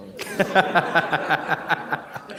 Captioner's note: laughter